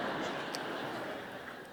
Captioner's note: laughter